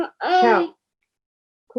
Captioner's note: foreign Language